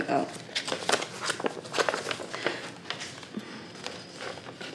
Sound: paper crumpling

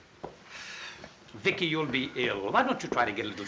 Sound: sighs

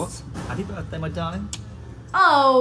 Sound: kiss

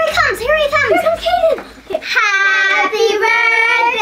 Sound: laughs

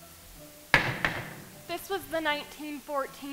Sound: banging

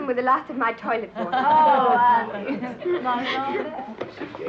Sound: group chattering; laughing

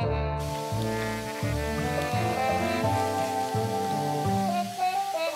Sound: water running

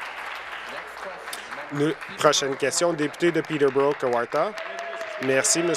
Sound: applause

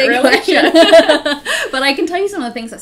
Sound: both laughing

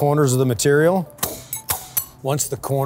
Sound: sheet clanging

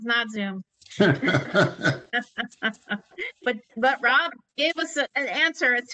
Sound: laughter

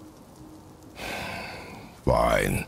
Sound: resigned sigh

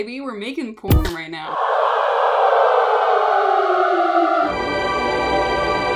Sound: hell noise; angel noise

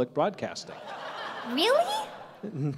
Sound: laughter

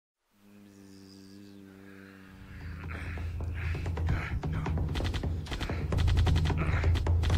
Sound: grunts and moans; sounds of gunfire

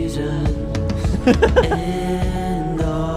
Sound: laughs

